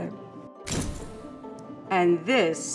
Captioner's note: camera clicking